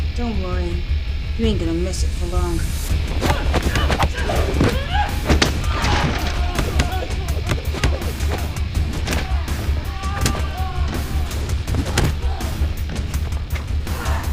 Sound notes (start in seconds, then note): 3.3 fists thudding; 3.3 girls grunting